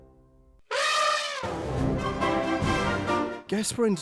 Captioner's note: elephant trumpeting